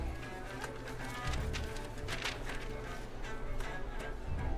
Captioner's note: pages turning